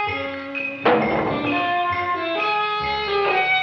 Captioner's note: can clangs